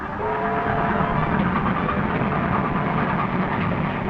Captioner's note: train whistle blowing